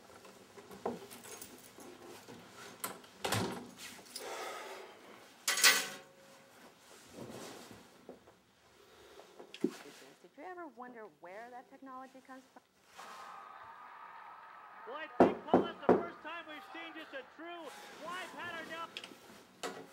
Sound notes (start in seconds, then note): 15.2 door knocks